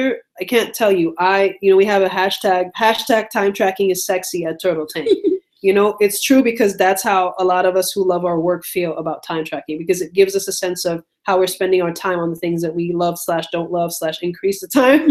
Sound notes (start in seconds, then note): 4.9 giggles